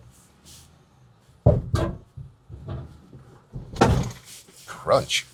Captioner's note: truck thuds